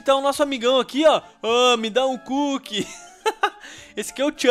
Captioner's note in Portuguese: risos